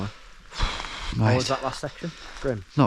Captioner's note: sighing